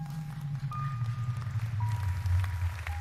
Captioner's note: applause